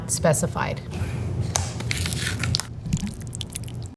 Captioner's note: container sliding; lid opening; salsa pouring